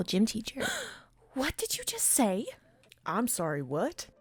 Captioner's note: gasp